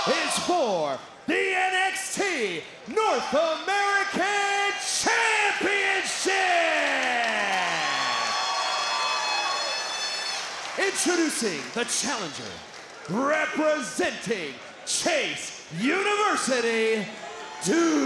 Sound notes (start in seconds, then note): 7.7 crowd cheering